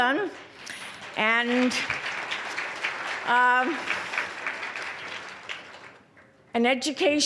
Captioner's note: applause